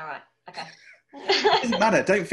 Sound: laughing

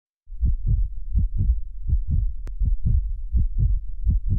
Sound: heartbeat pounds

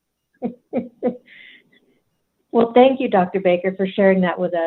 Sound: laughs

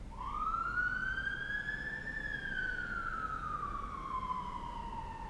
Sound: conveniently timed siren blares in the distance

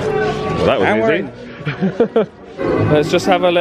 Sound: laughs

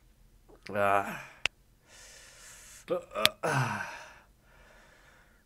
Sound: knuckles crack

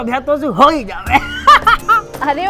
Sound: laughing

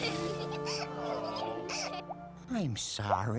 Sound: giggling; groaning

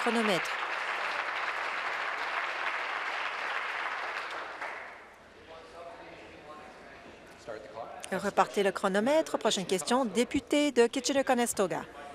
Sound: applause

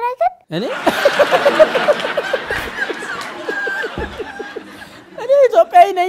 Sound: laughter

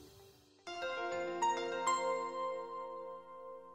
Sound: gentle chime

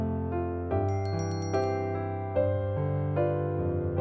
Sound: bell chimes

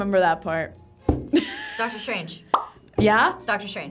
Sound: laughs

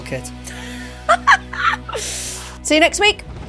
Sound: laughing

